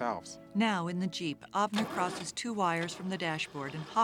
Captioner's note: truck engine starting